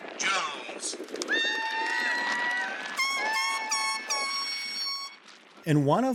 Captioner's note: cheering, horns